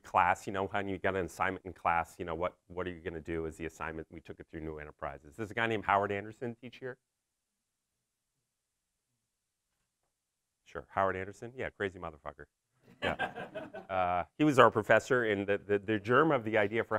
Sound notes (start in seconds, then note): 13.0 laughing